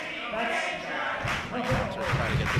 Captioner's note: crowd; clapping